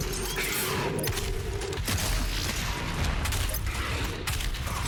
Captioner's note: gunshots echoing